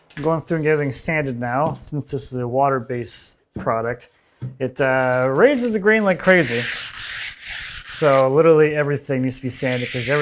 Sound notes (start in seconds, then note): 6.1 sandpaper skritching